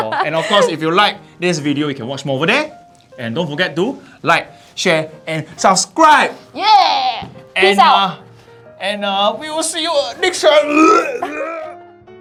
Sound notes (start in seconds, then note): 10.5 vomit sounds